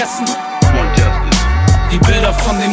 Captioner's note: scratches